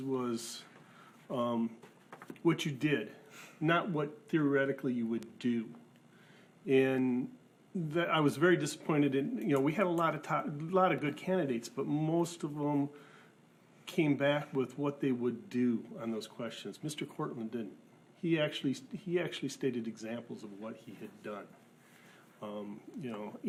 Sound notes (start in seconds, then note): none